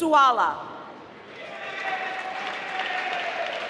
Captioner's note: applause